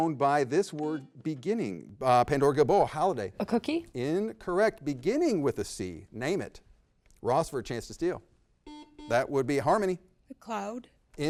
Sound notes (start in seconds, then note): 1.4 beep; 8.7 double beep